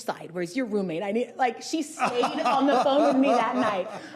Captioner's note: laughing